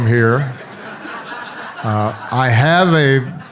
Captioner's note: audience laughs